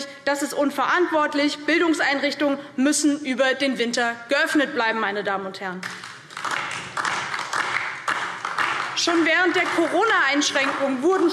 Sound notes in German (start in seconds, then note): 5.8 Beifall DIE LINKE